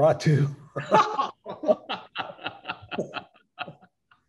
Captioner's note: chuckling